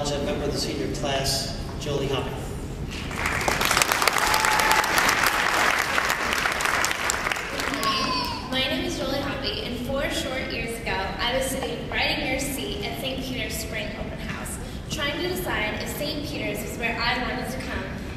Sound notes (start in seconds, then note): 2.9 applause